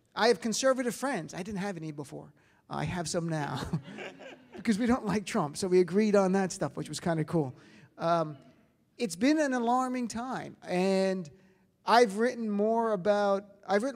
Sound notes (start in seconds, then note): 3.8 audience laughs